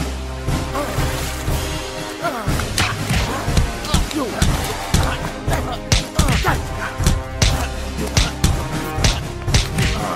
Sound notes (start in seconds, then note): 0.9 water splashing; 2.6 punches and kicks thudding